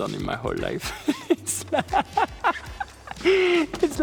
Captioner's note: laughing